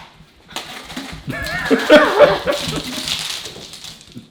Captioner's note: laughs